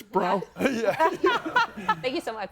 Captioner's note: laughs